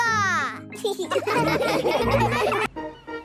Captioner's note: laughing